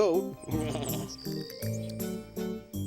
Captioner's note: goat bleating